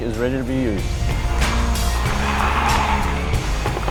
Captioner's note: car engines